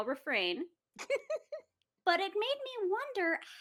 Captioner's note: laughing